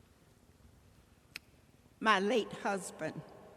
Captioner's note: woman smacks